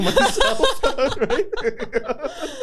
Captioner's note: laughter